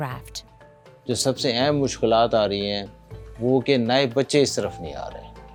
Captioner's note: speaking foreign language